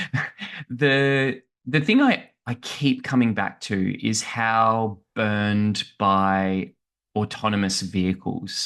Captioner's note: laughs